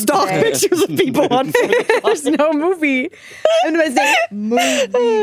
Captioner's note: all giggling